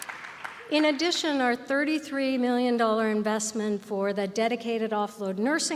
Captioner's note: applause